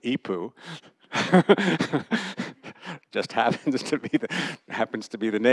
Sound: laughter

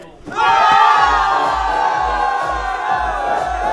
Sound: all cheering

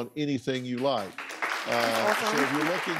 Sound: audience applauding

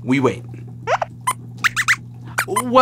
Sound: squeaks squeaks

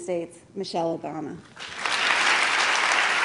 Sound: applause

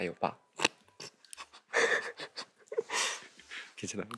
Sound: bursts out in laughter

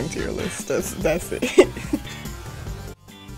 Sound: laughs

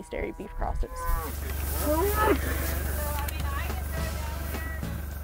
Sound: cows moo; upbeat music

